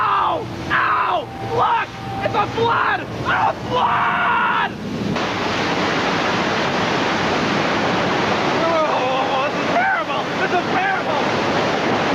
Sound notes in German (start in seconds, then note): 5.7 Wasser rauscht